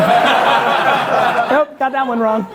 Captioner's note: audience laughing